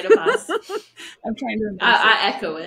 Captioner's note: laughing